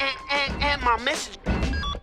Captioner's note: heavy footsteps approach; phone beeps off